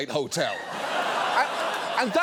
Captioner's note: audience laughing